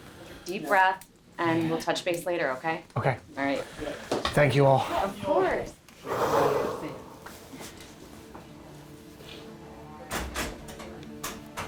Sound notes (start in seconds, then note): 6.0 exhaling